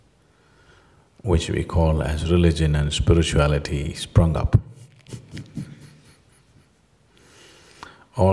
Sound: laughs

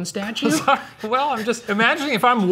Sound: laughing

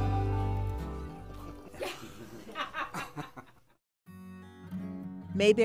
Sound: people laughing

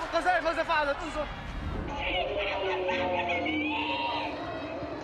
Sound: shouting in Arabic

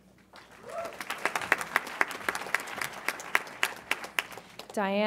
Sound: audience applauds

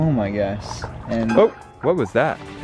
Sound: water splashing; suspenseful piano chord

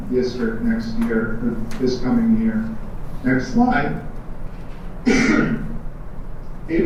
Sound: cough

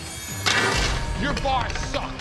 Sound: tray crashes

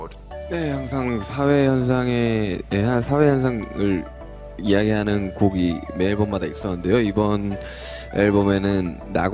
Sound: speaking in Korean

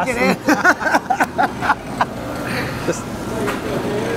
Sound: laughter

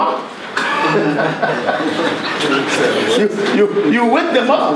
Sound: everyone laughs

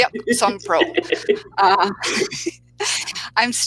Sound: laughs

